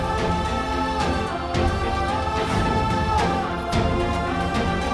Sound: emotional vocalising

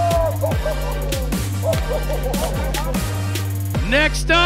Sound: crowd still cheering

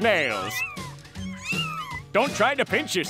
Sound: meowing

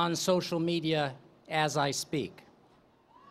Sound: cheering

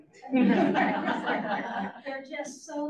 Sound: audience laughs

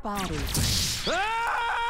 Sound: lazer whizzes; man screams

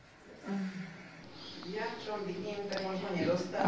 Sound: non-english

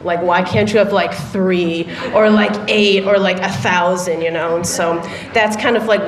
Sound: laughter

